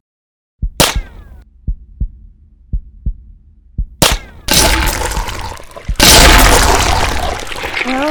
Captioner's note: gunfire, followed by bursts of gore